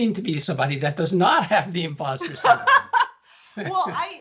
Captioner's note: laughing